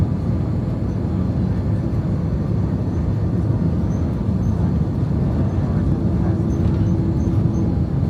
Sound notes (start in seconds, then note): 2.8 engine humming continues